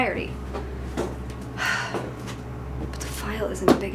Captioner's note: sighs